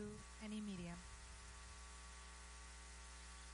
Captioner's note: speaking spanish